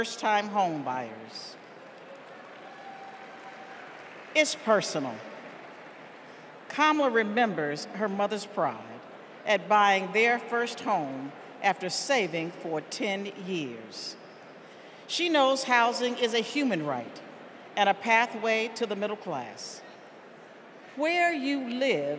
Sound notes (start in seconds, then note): 4.7 cheers and applause